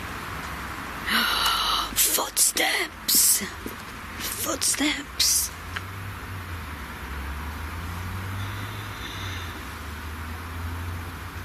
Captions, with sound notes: (gasps) Footsteps! Footsteps!